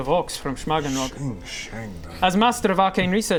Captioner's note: sching sching